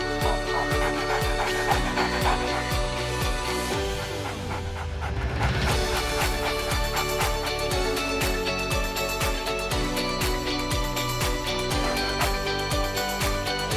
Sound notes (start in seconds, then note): 2.0 dog panting; 11.8 dog panting and crosses road safely